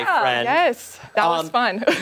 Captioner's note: laughter